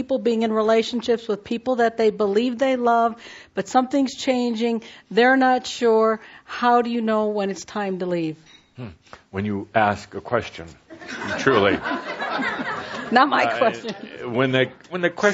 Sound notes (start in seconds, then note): 10.9 laughter